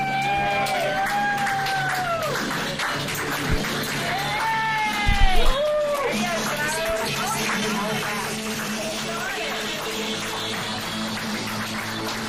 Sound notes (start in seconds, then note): 0.0 applause